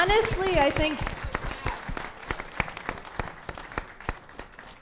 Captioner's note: applause